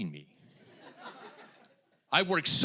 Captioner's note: audience laughing